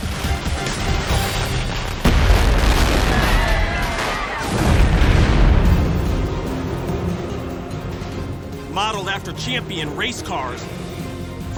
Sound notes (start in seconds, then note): 2.8 people screaming